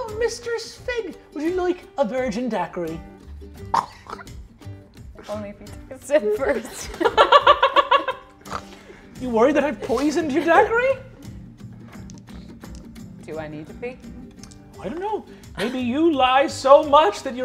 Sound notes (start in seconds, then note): 3.7 chortles; 6.5 laughing